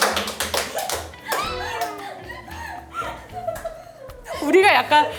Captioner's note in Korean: 음소거 웃음